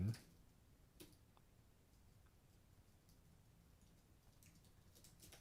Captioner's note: silence